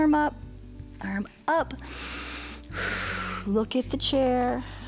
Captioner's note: inhales and exhales